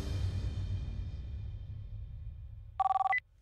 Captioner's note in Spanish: Suena el teléfono